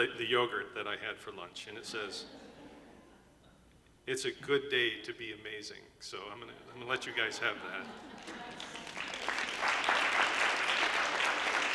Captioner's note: applause